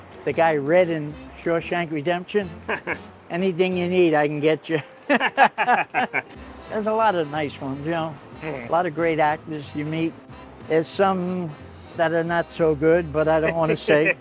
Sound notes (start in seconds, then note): 4.8 both laughing; 13.4 laughing